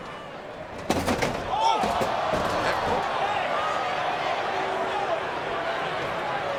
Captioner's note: audience chattering; audience gasping; casket thuds